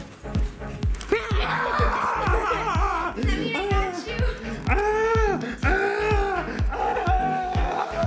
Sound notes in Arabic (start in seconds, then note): 1.4 الصراخ; 4.7 الصراخ